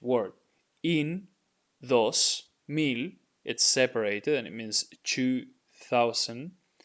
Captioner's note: speaking in Spanish